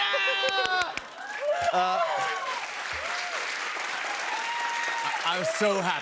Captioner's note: cheers and applause